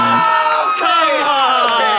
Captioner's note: everyone cheers